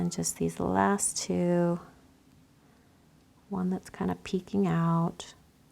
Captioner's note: none